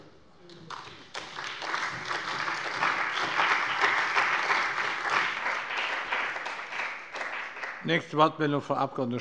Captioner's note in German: Beifall bei dem BÜNDNIS 90/DIE GRÜNEN und der CDU